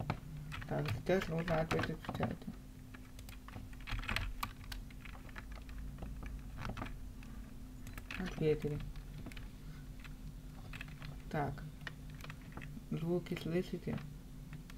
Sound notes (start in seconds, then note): 3.0 typing